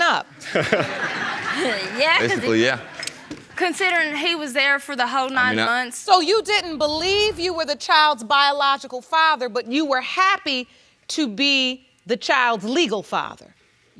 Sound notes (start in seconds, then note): 0.2 chuckles